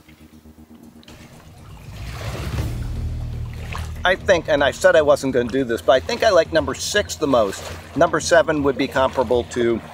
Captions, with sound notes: (waves lapping) I think--- and I said I wasn't gonna do this-- but I think I like number six the most. Number seven would be comparable too.